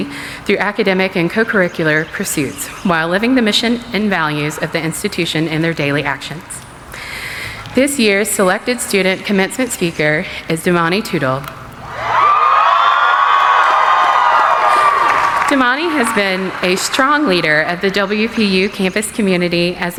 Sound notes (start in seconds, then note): 11.8 cheering